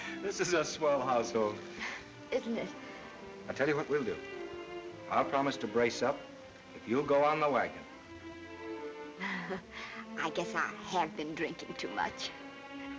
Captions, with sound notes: This is a swell household. Isn't it? I'll tell you what we'll do. I'll promise to brace up, if you'll go on the wagon. [chuckles] I guess I had been drinking too much.